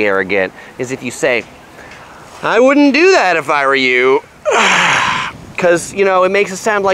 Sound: sighs

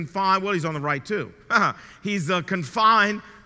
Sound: chuckles

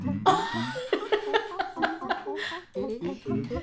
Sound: laughing

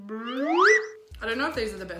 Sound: whistle

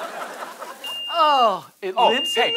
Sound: beeping

